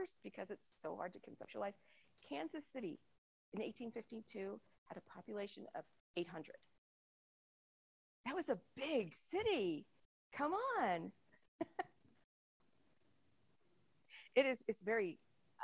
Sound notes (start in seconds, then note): 11.6 chuckles